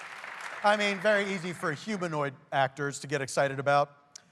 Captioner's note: cheers and applause